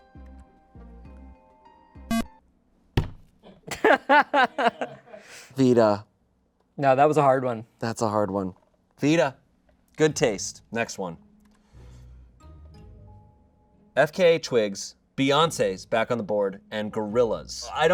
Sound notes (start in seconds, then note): 1.8 audience laughing; 2.1 electronic beep